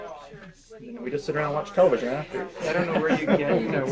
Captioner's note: laughter